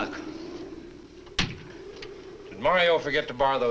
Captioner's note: door closes